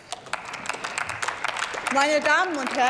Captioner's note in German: Applaus